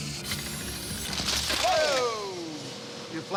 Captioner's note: clanking